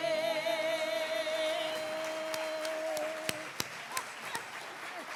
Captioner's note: audience appauds